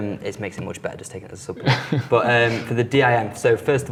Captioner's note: giggles